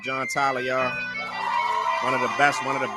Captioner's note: cheering